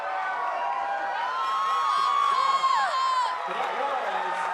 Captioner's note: cadets cheering